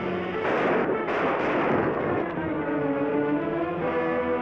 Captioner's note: gunshots bang